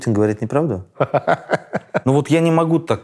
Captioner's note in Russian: смеётся